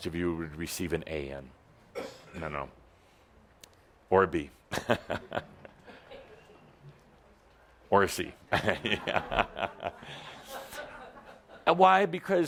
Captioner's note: Adamus chuckles